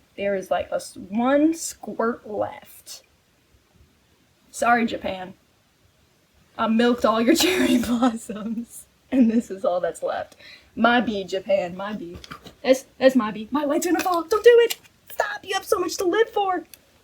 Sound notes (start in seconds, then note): 7.3 laughing